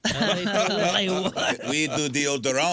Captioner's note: laughing